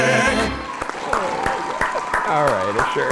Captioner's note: clapping